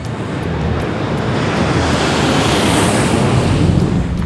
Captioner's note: plane engine roars